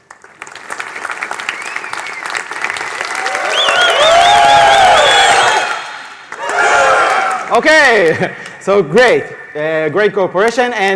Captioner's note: applause growing louder